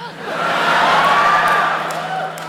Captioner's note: laughter